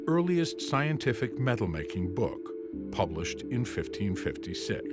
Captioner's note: none